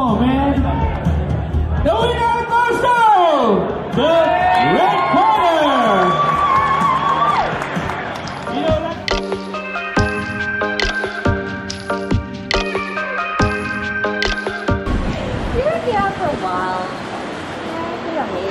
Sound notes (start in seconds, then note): 4.4 clapping and cheering; 8.1 techno hip hop music